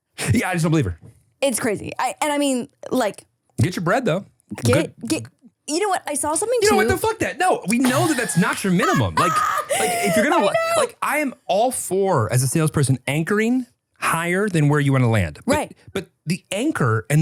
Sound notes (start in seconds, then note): 7.7 laughs